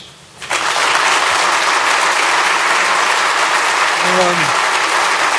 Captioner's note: applause